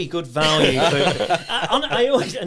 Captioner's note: all laughing